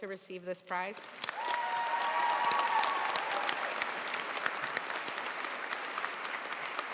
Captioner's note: audience cheering and applauding